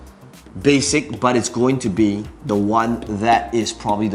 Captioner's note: tapping marker